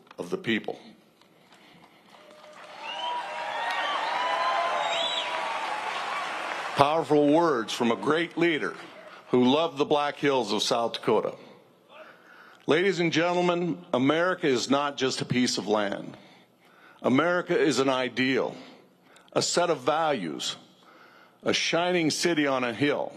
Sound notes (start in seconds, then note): 5.1 cheers and applause